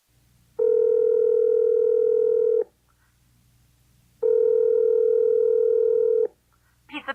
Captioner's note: phone ringing